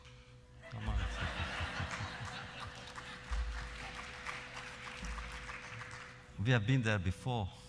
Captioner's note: laughter; applause